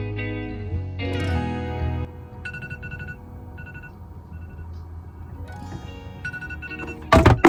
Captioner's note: alarm sound